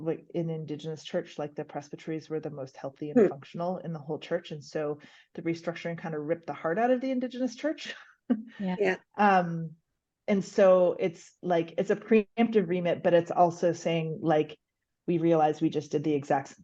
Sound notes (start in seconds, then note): 8.5 laughs